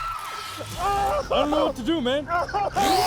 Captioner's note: man yells